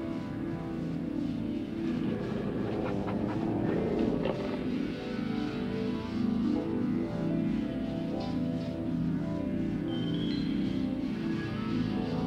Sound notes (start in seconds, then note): 1.9 dogs growling